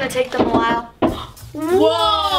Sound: knocking

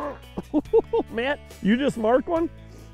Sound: laughing

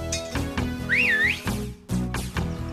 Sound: whistles

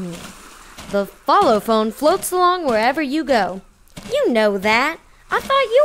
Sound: in salesperson voice

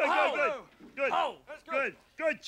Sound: Muppets exclaiming

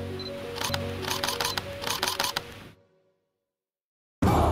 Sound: camera flashes

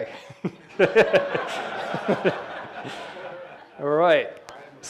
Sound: all laughing; chuckles

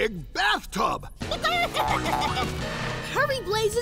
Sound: clucking

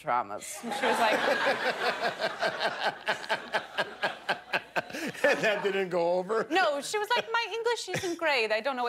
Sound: laughter

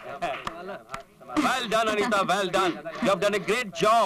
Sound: applauding; chuckles

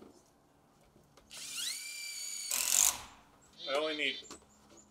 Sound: drill whirring

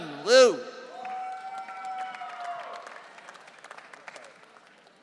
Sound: audience cheering

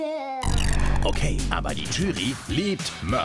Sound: German Voiceover Translation

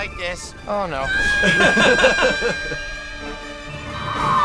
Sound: screams more

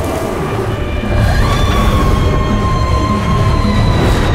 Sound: screams

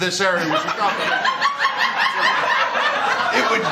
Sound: laughter

